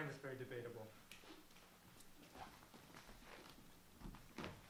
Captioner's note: snaps